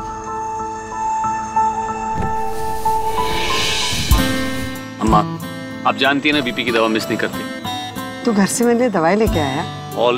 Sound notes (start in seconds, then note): 2.7 Car's window glass slide down